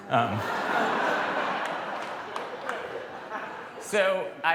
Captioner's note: laughter